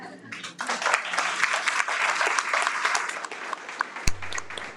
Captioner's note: audience applauds